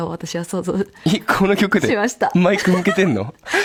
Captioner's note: laughs